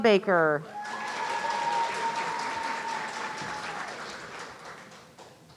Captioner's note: audience cheering